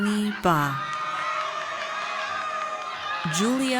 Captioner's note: audience cheers